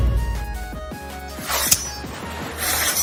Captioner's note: shing; clink